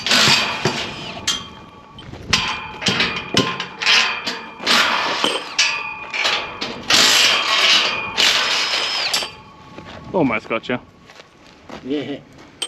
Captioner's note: drill whirring